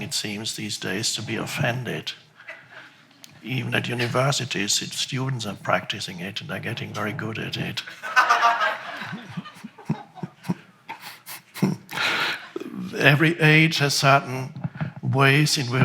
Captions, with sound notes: it seems these days to be offended. Even at universities, students are practicing it and they're getting very good at it. (audience laughs) (laughs) Every age has certain ways